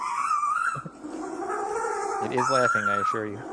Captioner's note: penguin continues squealing